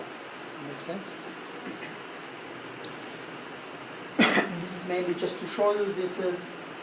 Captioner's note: cough